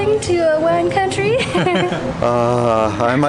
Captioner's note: both laughing